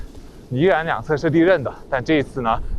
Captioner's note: walking